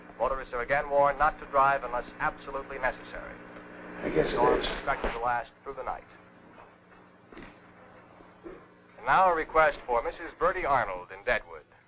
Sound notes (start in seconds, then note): 5.2 radio Announcer